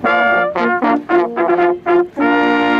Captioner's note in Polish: sygnał hejnałówek